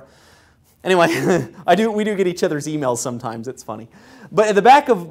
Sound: laugh

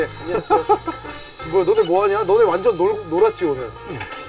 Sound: chatting in between

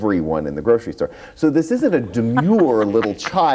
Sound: laughs

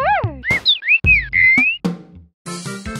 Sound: bird tweeting

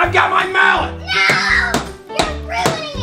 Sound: mallet bangs

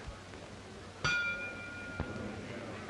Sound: gong

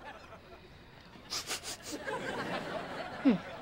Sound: sniffing

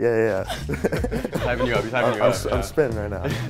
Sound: laughs

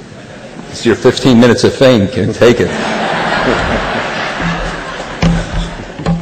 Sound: laughter

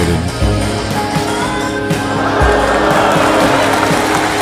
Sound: audience gasps then bursts into applause

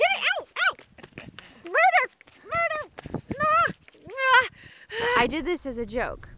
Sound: laughs

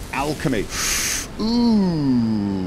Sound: inhales

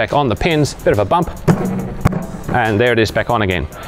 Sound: thump

